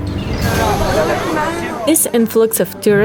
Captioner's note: crowd buzzing